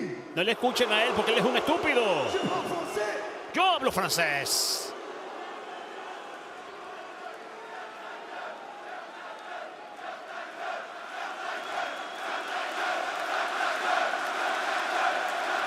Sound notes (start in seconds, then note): 4.0 applause